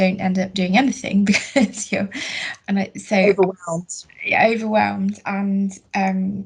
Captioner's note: laughs